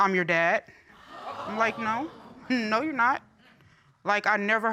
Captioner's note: audience exclaiming